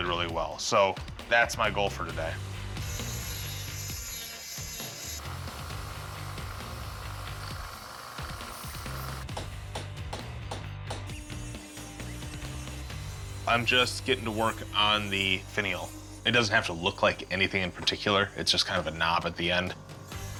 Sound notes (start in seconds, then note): 2.6 grinding; 8.4 hammering